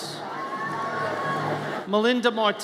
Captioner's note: audience cheers